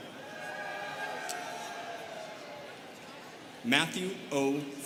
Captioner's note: students cheering